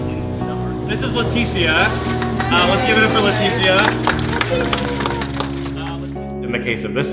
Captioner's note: clapping